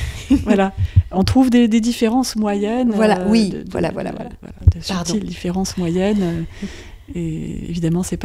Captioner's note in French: Rires; Rires